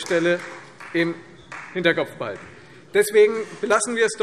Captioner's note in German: Beifall Freie Demokraten